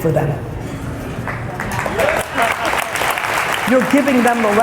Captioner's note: applause